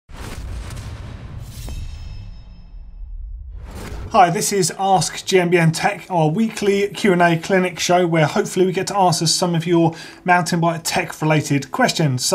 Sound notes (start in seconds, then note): 1.5 scraping metal